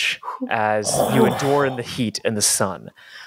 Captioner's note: groan